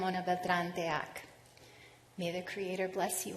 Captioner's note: speaking non-english